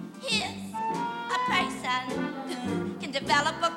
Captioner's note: coughs